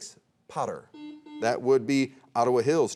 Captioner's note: buzzer rings